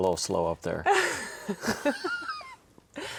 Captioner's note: both chuckling